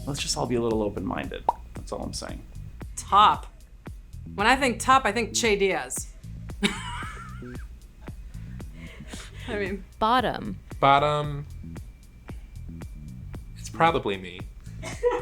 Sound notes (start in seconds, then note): 6.6 Sara laughs